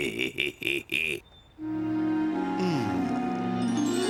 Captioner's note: chuckles; groans